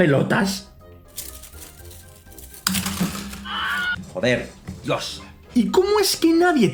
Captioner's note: springies and spanish swearing